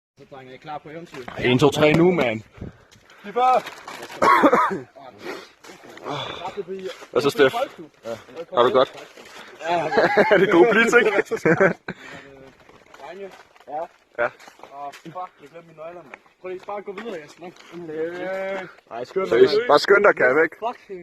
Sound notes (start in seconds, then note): 4.1 cough cough; 9.6 guy laughs